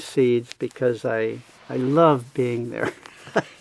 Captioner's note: laughs